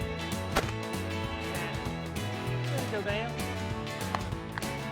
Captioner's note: multiple gunshots